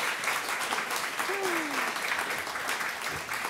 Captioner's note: sighs